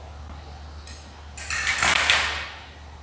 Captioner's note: metal clanking